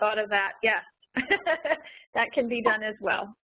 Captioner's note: chuckles